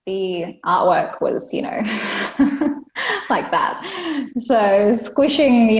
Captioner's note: laughs